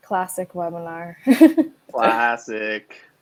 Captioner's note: laughs